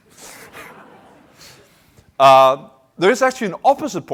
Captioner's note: laughter